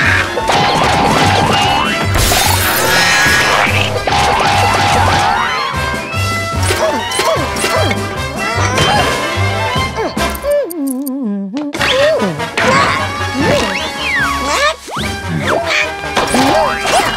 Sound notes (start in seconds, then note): 10.4 humming